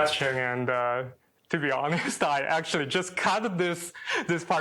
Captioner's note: chuckles